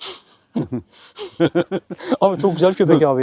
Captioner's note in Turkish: Gülüşmeler